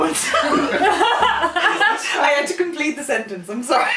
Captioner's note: laughter